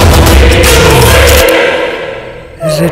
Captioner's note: Amma cracks neck